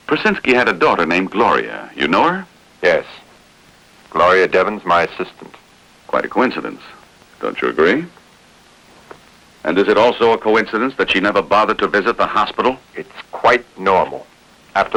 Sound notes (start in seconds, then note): none